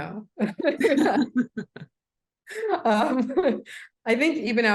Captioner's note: laughing